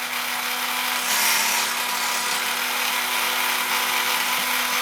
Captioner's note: sharpening noise